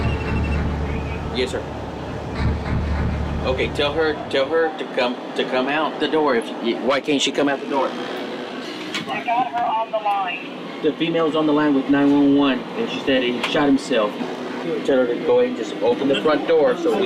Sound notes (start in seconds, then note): 0.0 cell phone rings; 7.6 woman over phone